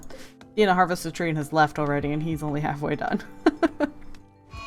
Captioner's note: laughs